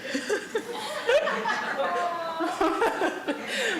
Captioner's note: laughter